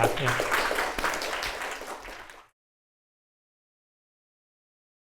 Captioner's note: applause